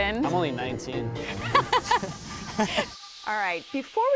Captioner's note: laughing